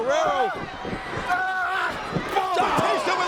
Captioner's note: wrestlers grunting